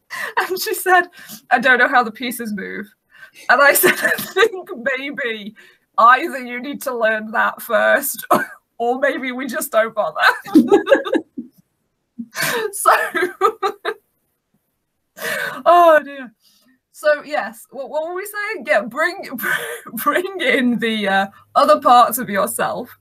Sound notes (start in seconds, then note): 10.2 laughing